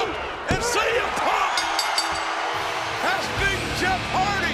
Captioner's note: bell rings